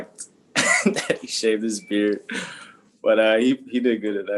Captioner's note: laugh